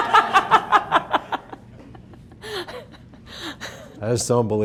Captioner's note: laughing